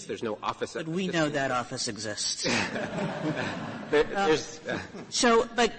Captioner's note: laughter